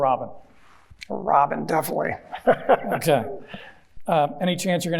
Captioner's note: chuckling